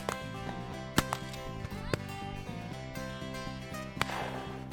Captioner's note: multiple gunshots